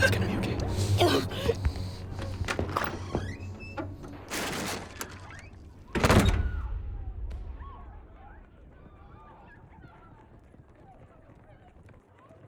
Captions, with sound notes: - It's gonna be okay. (door squeaks open) (door closes) (ladies screaming in the distance)